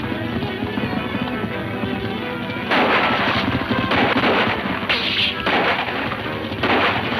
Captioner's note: suspenseful music; guns roaring